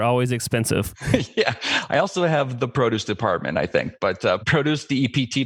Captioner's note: laughs